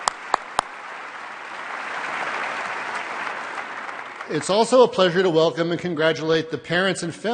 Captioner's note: applause